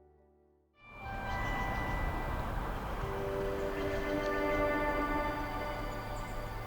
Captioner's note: gentle music; birds chirping